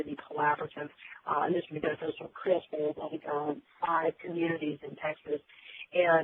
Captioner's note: static